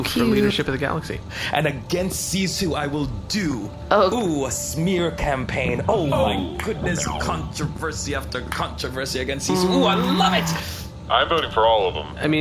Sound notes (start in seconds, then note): 5.5 clapping